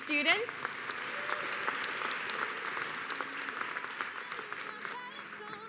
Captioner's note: applause